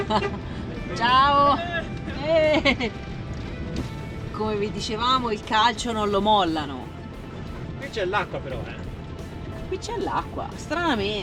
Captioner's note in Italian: risate